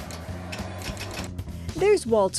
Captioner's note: machine clicking